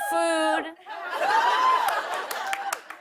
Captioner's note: laughter